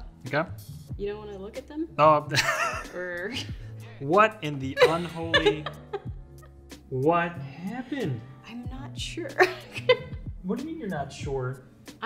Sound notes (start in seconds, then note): 2.6 laughs; 4.7 laughs; 9.4 laughing